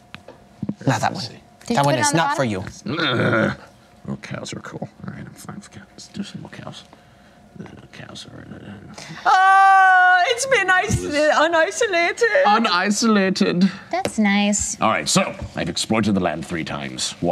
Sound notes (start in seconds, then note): 2.8 grunts; 9.1 yells; 10.1 imitates German accent